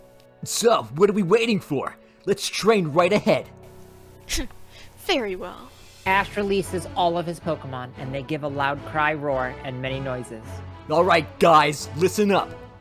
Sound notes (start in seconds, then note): 3.7 scoffs